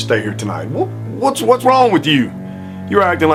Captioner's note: stammers